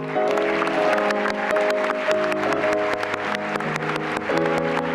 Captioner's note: applause